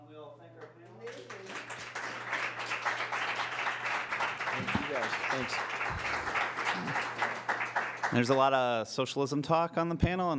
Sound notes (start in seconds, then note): 0.6 applause